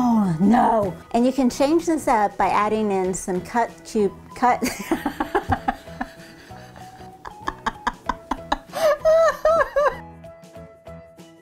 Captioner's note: laughing